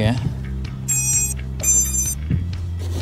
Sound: machine sound

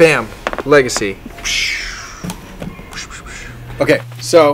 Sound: whooshing

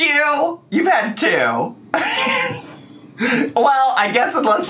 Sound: laughs

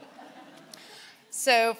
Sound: laughing

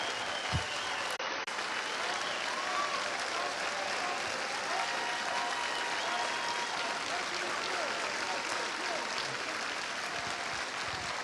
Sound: cheers and applause

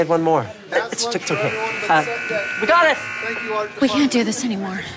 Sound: buzzer sounds

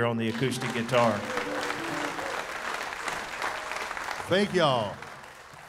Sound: audience applauding; audience cheering

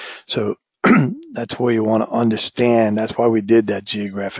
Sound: cough

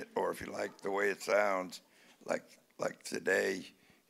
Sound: none

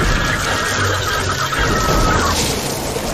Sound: screaming stops

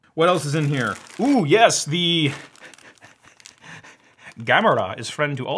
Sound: laughs

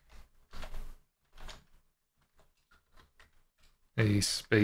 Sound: keyboard clattering

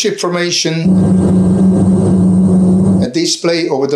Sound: plane engine rumbling

